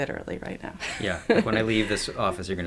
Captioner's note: laughs